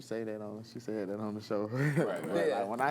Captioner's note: laughs